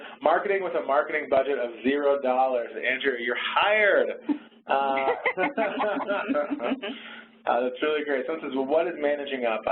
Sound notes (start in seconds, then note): 4.7 laughter